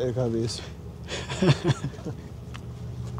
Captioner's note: laugh